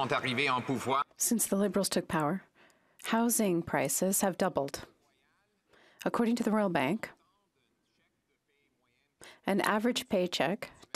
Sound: some Applause

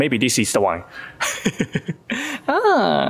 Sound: laughs

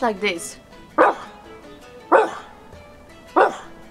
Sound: bork bork bork

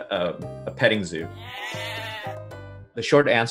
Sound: goats bleat

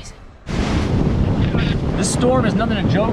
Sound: whispers; wind blowing

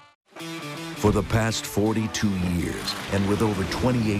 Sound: voiceover

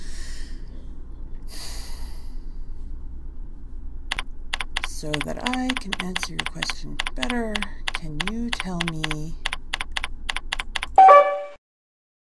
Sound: sigh

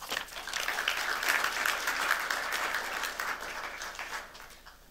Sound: applause

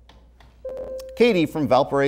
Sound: buzzer

